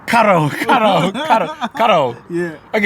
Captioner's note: laughing